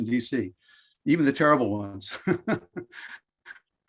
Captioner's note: laughs